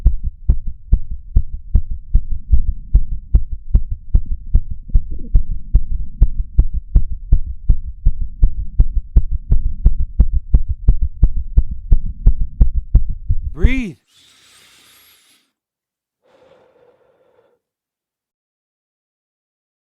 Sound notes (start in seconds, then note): 13.6 person inhales deeply; 16.2 person exhales deeply